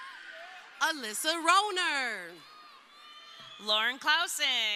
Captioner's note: crowd cheering